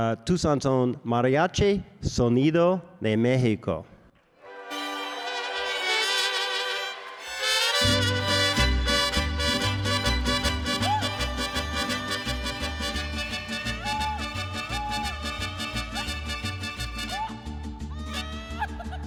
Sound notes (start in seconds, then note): 4.7 mariachi music; 14.2 vocalist shouting joyfully